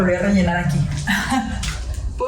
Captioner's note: giggles